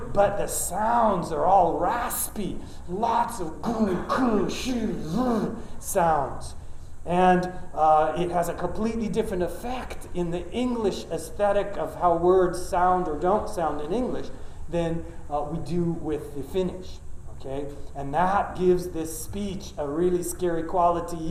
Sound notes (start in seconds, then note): 3.6 grunting